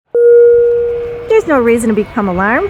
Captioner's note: ding